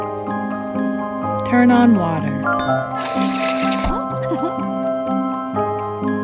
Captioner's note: water running; giggle